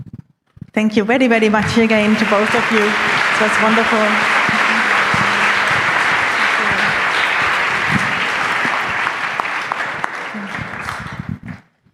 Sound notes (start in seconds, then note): 5.6 applause